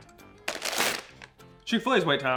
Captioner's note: bag rustling